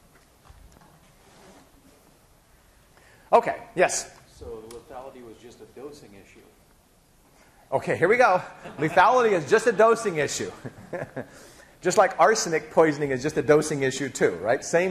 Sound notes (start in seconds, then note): 10.5 laughing